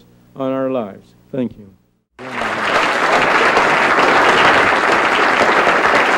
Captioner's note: applause